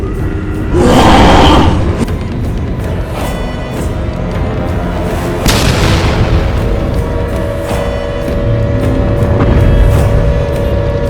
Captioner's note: siren sounds with loud explosions